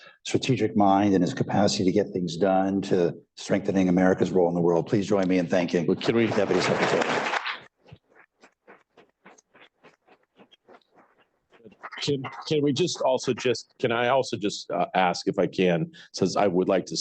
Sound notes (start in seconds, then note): 11.1 applause